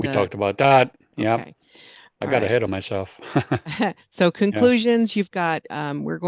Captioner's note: laughs